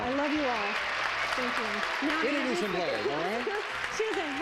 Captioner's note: audience applauding